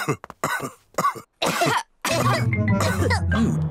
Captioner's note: all cough; coughs